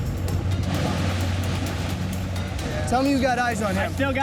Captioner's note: waves splashing